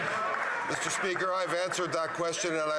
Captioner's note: some Applause